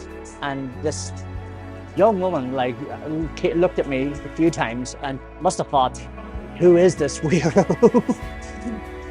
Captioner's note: laughs